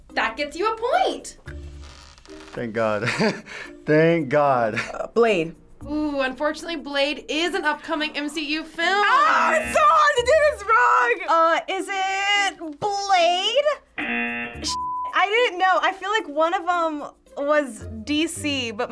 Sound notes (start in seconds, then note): 3.0 laughs; 14.0 buzzer rings